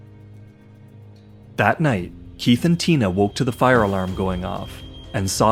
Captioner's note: alarm beeping